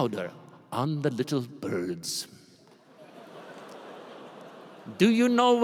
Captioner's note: laughter